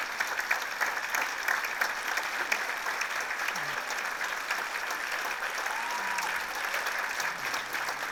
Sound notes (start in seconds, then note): 5.0 applause continues